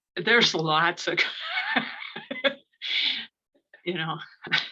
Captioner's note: laughs